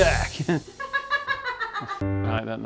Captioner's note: laughing